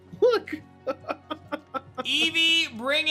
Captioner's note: laughs